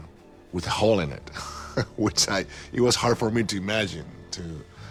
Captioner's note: chuckles